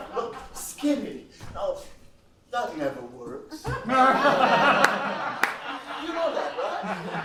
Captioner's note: laughs